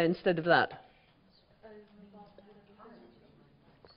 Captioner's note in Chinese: 無聲